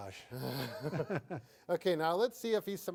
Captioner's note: both chuckle